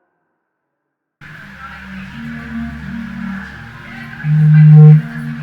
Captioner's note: indistinct crowd noises